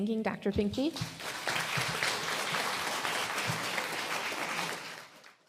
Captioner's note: applause